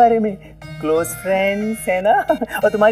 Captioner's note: Chuckles